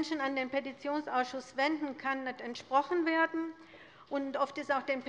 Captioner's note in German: none